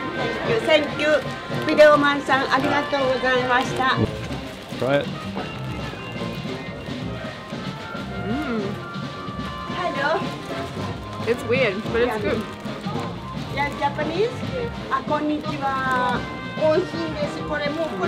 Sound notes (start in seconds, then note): 1.1 in Japanese language; 5.6 upbeat local band music